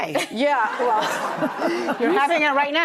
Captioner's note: audience laughing